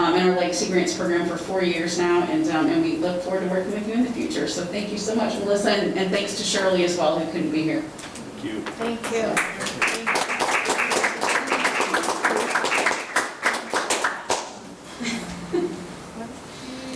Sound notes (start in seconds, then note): 11.1 attendees applauding